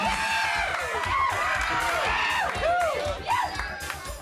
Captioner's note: audience cheers